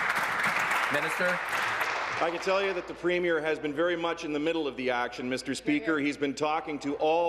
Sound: applause

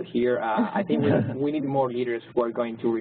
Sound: laugh

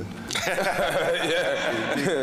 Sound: panel laughing

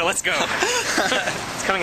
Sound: laughing

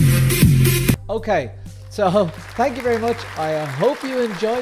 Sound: energetic dance music; applause

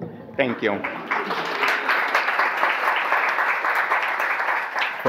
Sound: audience applause

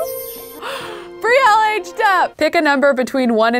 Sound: gasps

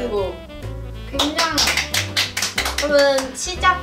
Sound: clap

